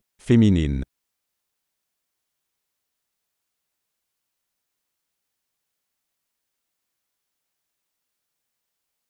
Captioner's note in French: silence